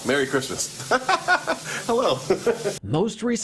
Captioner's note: laughter